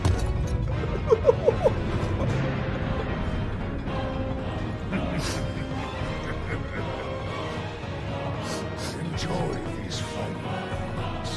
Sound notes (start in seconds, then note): 0.8 laughs; 2.4 cannot decide between crying and laughing